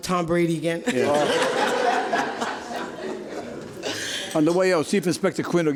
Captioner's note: spectators laugh